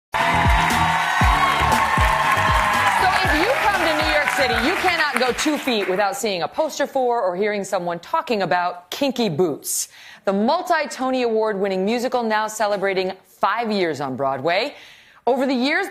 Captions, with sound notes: [ APPLAUSE ] >>> SO, IF YOU COME TO NEW YORK CITY, YOU CANNOT GO TWO FEET WITHOUT SEEING A POSTER FOR OR